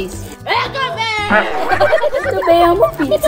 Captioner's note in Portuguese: risadas